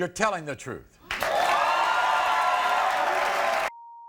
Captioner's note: audience cheering